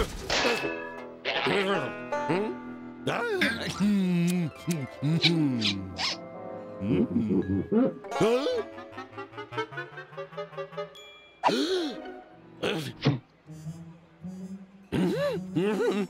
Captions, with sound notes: HMM? DUH! MMM! MM! MM-HMM! (pumpkin squeaks) HUH? (gasps) HMM?